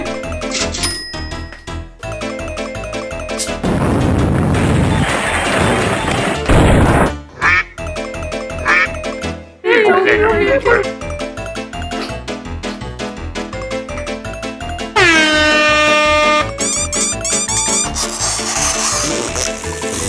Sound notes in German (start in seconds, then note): 2.0 Schnelle Musik; 3.6 Erdbebengeräusche; 9.6 Lautes Lamentieren; 10.9 Schnelle Musik; 14.9 Schiffshorn; 16.3 Rhythmisches Quietschen; 17.1 Kratzen; 19.0 Furzgeräusch